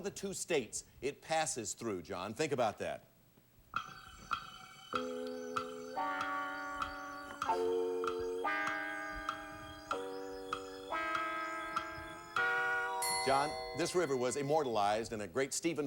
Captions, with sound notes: name one of the two states it passes through, John. Think about that. [clock ticking] John, this river was immortalized